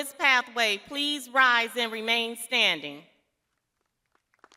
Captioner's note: crowd applauding